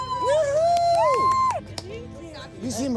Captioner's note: excited screaming; excited clapping